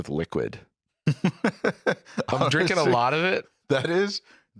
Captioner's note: laughs